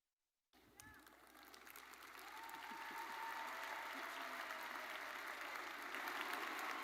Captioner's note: audience cheering and applauding